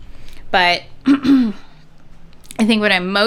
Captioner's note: clearing throat